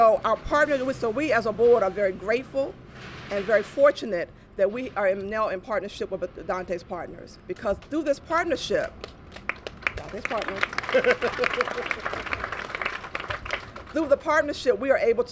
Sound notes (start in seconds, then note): 8.9 applause